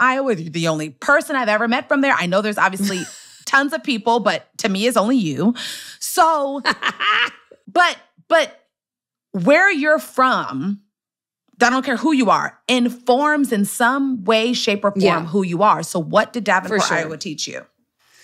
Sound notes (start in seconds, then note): 6.7 laughs